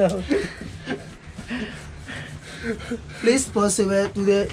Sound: laughing

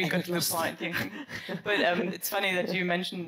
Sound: laughs

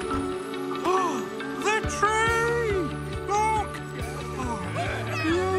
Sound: gasps

